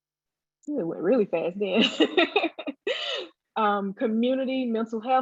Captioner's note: laughs